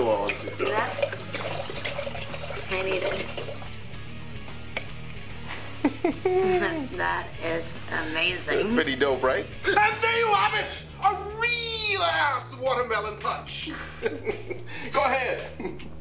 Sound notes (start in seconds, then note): 5.5 laughter